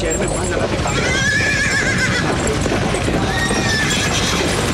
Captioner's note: Horse neighing